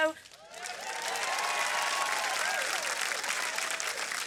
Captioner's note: applause